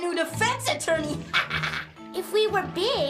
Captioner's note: laughs